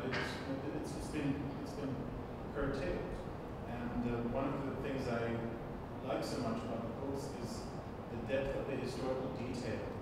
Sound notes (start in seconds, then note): none